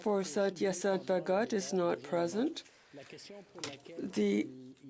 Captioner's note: speaking French